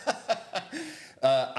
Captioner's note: laughing